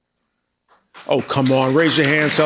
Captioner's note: people applauding